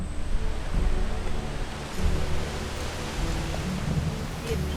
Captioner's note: wind rushing